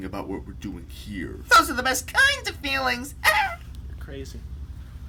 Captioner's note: chuckles